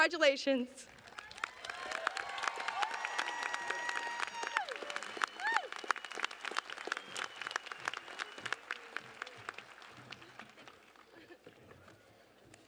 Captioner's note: applause